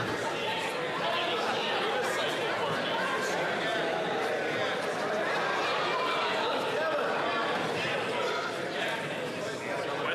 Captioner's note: yelling